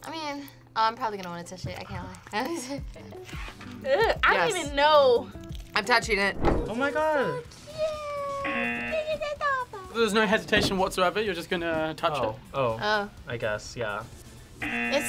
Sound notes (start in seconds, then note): 8.4 buzzer rings; 14.6 buzzer rings